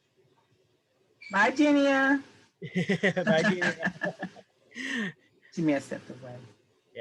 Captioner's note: laughter